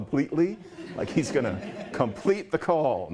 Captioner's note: laughter